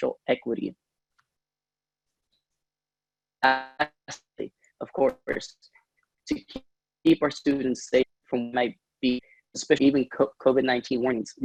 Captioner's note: audio drop